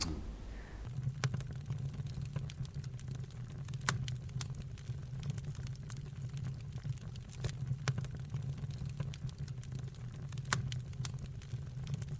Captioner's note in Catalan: soroll de foc